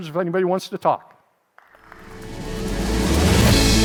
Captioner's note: audience applauding; upbeat music